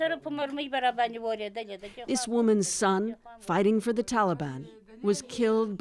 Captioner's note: speaking Foreign Language